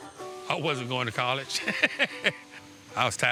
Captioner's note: laughs